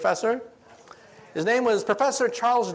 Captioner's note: audience chattering